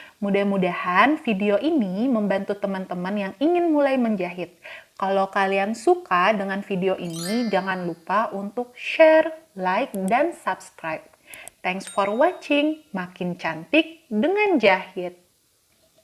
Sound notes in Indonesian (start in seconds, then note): 11.8 bell ringing